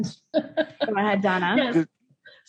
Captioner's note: laughing